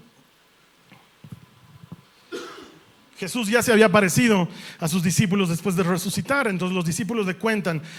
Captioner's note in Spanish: carraspeo